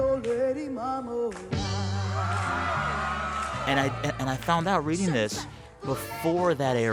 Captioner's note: applause